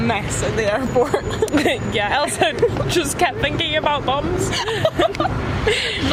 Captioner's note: laughs